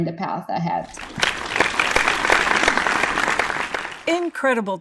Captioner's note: audience applauds